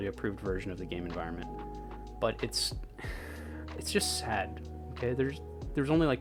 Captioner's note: sigh